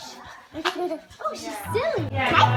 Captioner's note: giggling